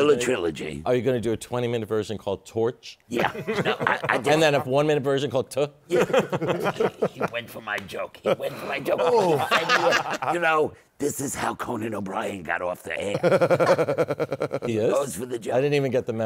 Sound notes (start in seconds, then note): 5.9 laughter; 13.1 laughter